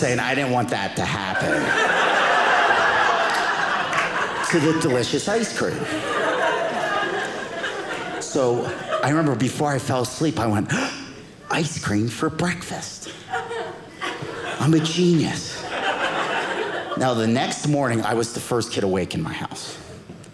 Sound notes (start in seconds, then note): 2.6 audience laughing